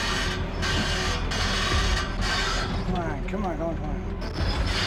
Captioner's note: track creaking